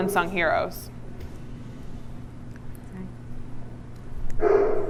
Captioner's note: dog barks in background